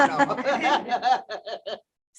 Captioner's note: laughs